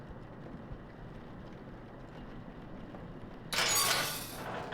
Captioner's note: loud crash